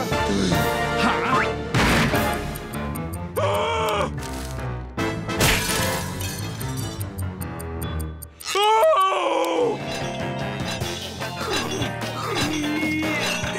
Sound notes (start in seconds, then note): 3.4 Patrick groaning